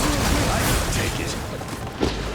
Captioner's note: gunshots